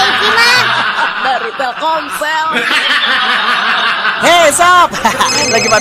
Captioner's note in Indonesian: tertawa